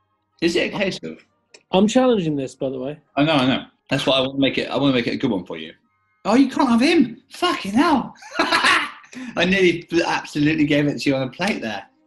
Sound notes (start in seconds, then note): 8.1 laughs